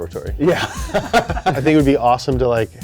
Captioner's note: laughter